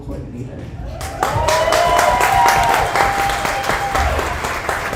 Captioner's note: audience applauds